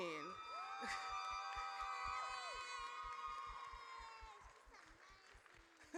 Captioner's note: audience cheers